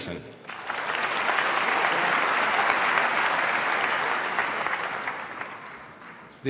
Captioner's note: applause